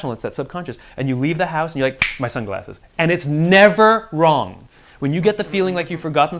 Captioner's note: snaps